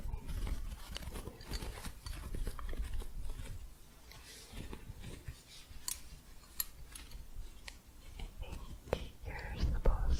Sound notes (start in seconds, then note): 0.8 soft scratching and gentle jingling